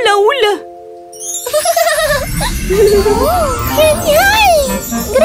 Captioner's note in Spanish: Risas